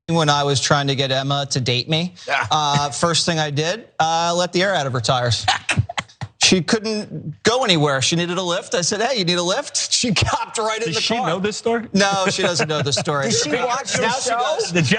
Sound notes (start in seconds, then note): 5.4 laugh